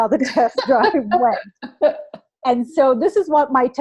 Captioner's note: laughter